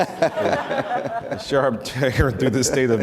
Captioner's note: audience laughter